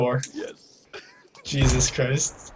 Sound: laughs

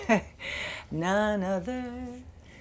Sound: laughs

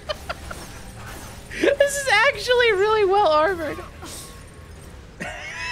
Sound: laughing

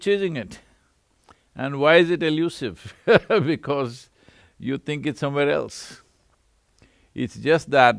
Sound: laughs

